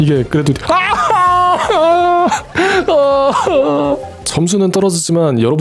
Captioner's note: haha